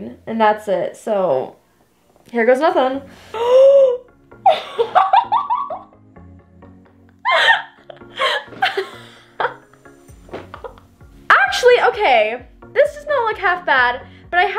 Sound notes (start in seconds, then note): 3.1 gasping; 4.7 laughing